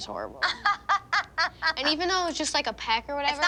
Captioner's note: laughs